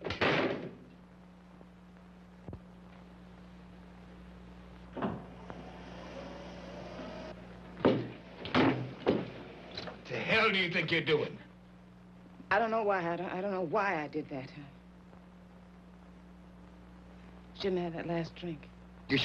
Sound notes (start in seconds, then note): 0.1 door slamming; 5.4 electric wheelchair motor whirring; 8.4 door bursting open; 8.4 door banging